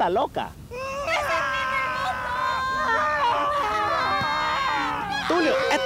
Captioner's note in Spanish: Gente gritando atrás